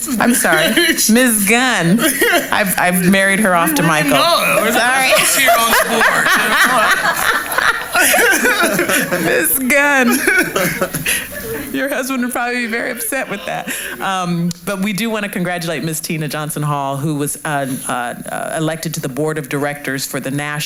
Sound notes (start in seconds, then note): 6.3 laughter